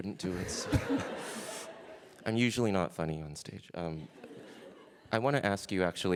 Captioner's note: laughter